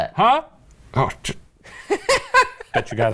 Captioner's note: scoffs; laughing